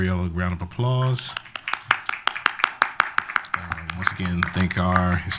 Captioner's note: applause